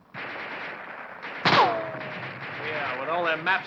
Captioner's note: guns firing